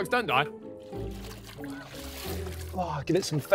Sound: water splashing

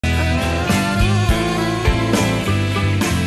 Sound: whining

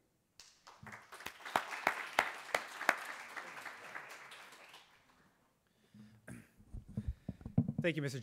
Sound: applause

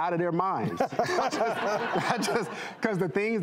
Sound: audience laughing

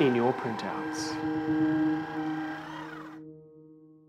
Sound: paper shredder

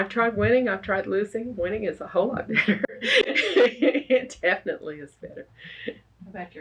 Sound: laughs

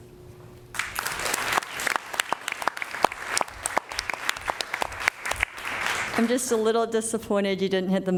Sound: applause

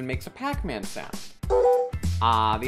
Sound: pac-man sound

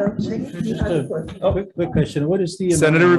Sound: crowd chattering

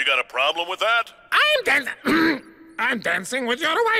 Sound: high voice; low voice

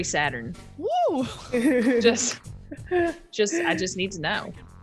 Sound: laugh

